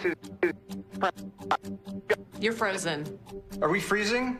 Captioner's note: glitching audio